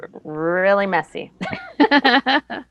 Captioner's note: laughs